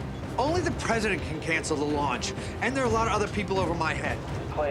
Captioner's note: none